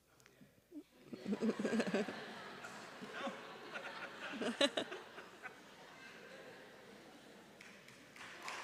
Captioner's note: laughter; applause